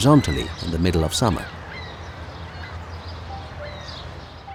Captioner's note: seagulls squawking